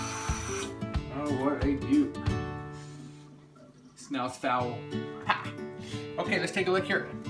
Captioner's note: sniff